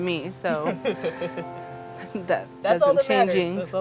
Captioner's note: laughs